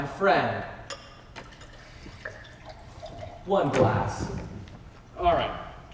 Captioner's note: drink pouring